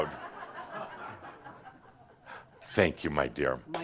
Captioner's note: laughter